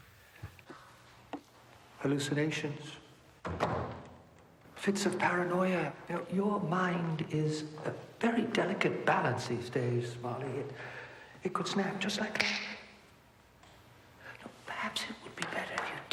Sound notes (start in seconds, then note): 3.4 door rattling; 13.3 fingers snapping